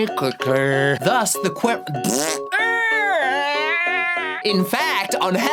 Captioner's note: fart noise squealing